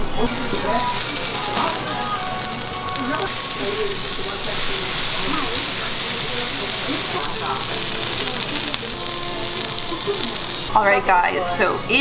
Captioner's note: sizzling sounds